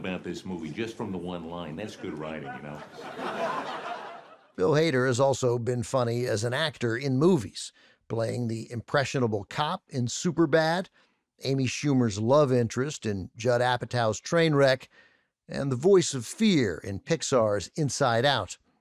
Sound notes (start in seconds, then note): 1.7 audience laughter